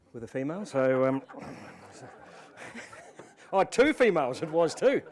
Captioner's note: audience laughs